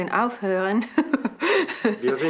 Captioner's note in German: Lachen